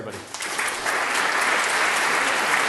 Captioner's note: applause